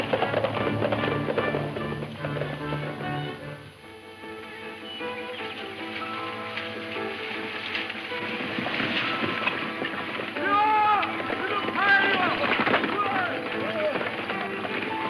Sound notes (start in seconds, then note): 4.0 dramatic music; 10.4 men shouting